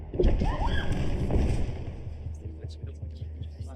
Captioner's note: churchgoer yells